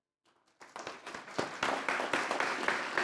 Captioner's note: applause